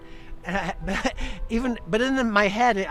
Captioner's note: chuckles